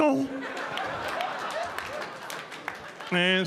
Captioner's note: audience laughing